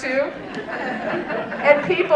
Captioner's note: audience laughing